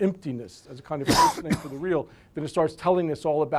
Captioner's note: voice drowned out by coughing